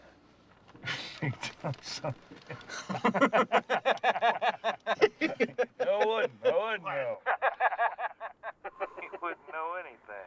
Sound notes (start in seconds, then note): 2.4 both laughing; 7.2 all laughing